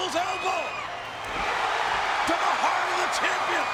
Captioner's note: crowd cheering